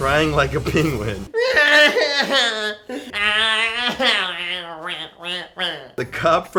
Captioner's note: cries..."penguinishly"